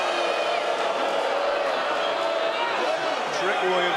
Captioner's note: crowd boos